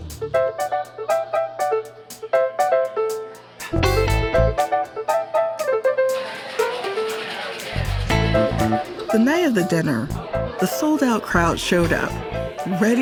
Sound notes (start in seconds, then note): 0.1 jazzy piano music; 6.1 cocktail shaker